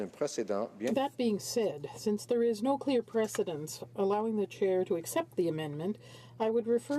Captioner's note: speaking French